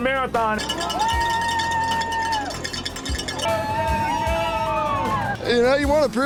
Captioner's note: cheers